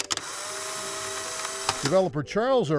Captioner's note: camera snapping